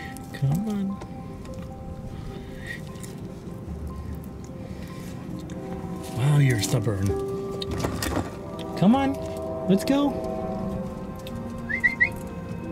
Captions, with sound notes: Come on. [Train whistle] Oh you're stubborn. [Train whistle] Come on, let's go. [Whistle]